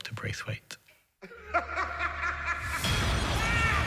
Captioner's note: laughing sounds